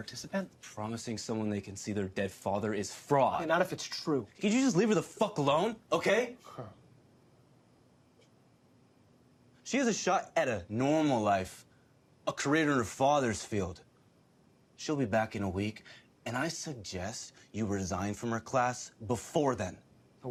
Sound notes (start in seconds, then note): 6.4 Louis chuckles